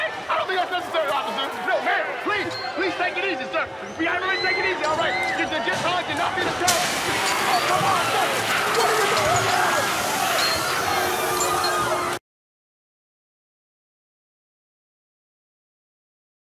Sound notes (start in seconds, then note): 1.9 sirens wail, horse whinnies; 3.5 dogs bark, women scream; 6.5 loud screams, sirens wailing